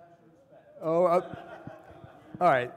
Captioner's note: people laughing